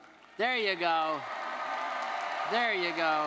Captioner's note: audience applauding; audience cheering